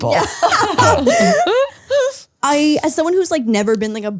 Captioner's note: all laugh